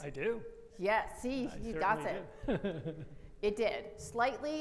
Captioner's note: laughs